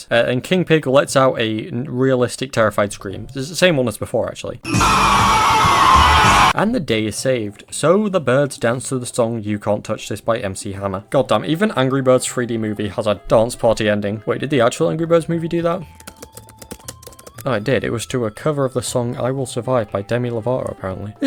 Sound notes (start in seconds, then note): 4.6 King Pig Screams; 15.8 typing